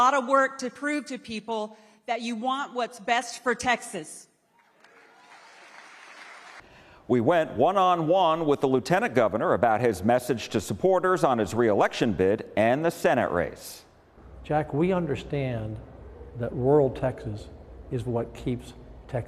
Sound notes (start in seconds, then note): 4.6 crowd applauding